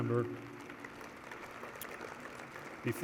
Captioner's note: applause